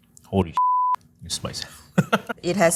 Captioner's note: laughing